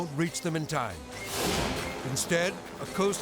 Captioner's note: graphics whooshing